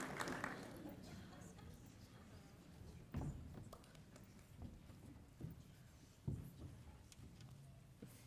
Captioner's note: applause